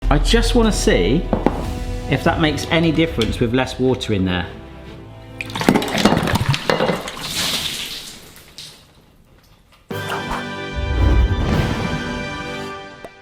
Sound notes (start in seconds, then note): 5.3 water trickling; 5.6 glass clattering; 7.1 water spilling; 9.9 instrumental music